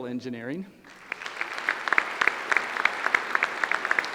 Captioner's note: applause